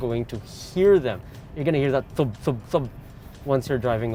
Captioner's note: thud thud thud